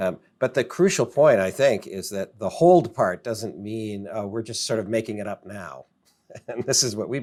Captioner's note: laughs